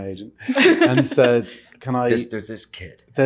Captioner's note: ladies laugh